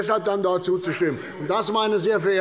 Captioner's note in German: Zurufe von der SPD